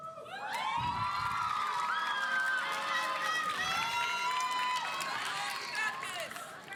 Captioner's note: audience cheering; audience applauding